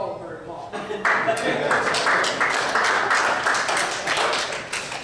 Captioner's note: audience applauds